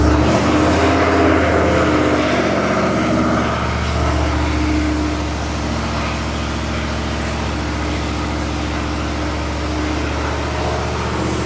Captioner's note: engine running